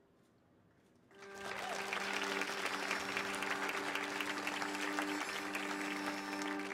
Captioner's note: audience applauding; tuning